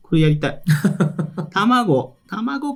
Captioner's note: laughs